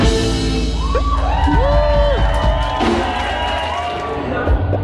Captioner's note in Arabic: تصفيق